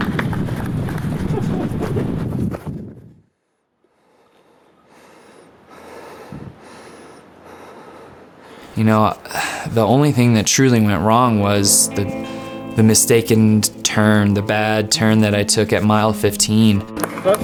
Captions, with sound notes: (panting) - You know, the only thing that truly went wrong was the mistaken turn, the bad turn that I took at mile 15.